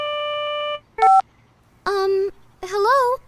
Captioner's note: phone beeps